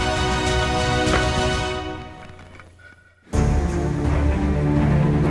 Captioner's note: bow shooting